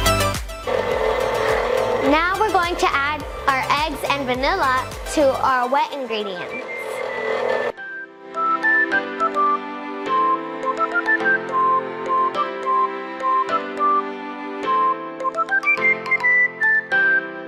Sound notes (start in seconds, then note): 6.2 machine mixing; 8.6 upbeat music